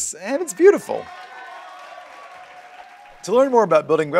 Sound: canned applause

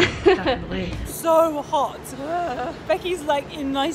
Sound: groaning

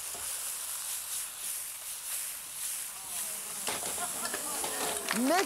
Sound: oil sizzling; audience applause

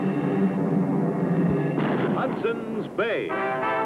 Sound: drum rolls; cannon fires

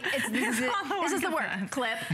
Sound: laughter

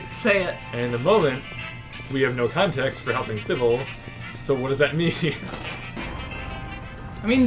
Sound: laughs

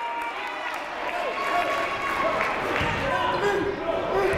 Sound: shouting

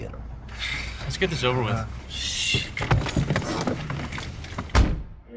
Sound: sighs

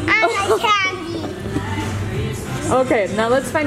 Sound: laughs

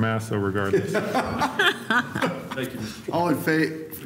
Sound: laughter

